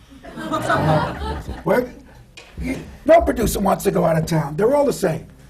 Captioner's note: laughter